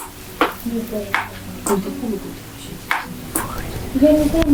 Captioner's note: water dripping